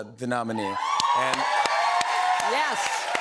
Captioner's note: cheers and applause